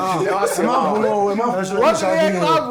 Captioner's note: laughs